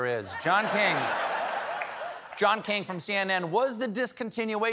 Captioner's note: laughter